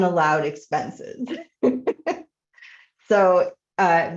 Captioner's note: chuckling